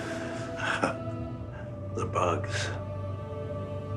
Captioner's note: chuckles